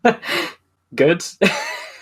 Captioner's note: laughs